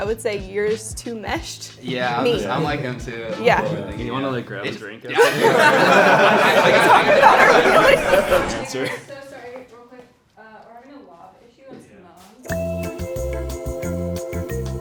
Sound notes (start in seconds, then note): 5.1 laughing; 12.5 upbeat music